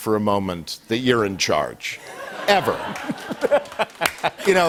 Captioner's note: laughter